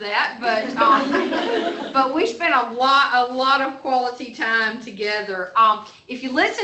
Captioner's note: laughter